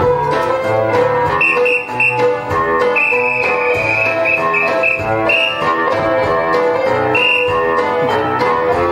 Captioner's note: whimsical 1920's music; instructional whistles; whimsical 1920's music